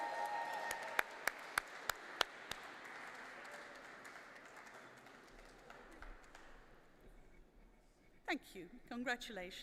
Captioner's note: applause